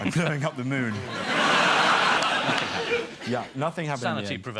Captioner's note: audience laughter